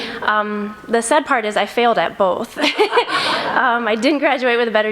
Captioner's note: laughs